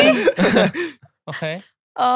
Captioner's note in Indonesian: tertawa